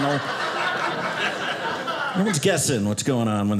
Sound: audience laughing

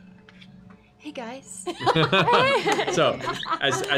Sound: laughter

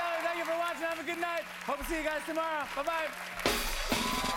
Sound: cheers and applause

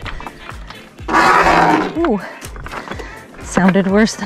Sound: stick scratching against the kayak

